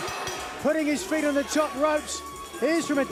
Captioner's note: bell ringing